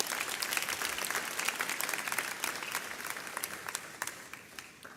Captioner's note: audience applauds